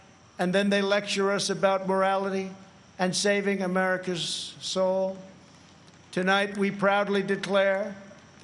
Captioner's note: none